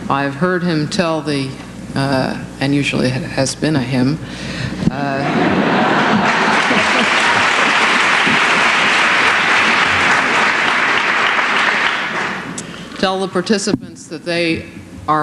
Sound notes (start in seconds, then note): 5.3 applause